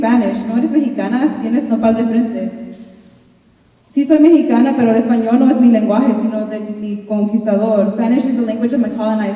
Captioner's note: speaking in Spanish